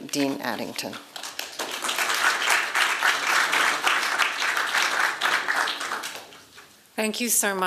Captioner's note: applause